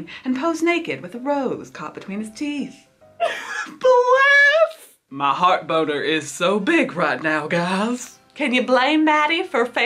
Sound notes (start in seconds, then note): 3.2 laughs